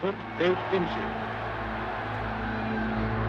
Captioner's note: cheers and applause